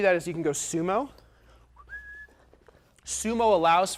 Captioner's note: whistling